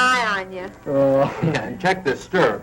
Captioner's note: laughing